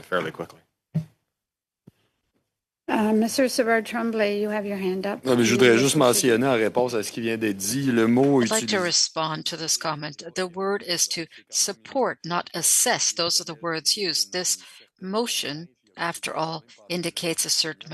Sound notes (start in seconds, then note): 13.5 speaking French